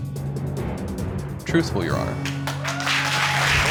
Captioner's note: audience applauding, cheering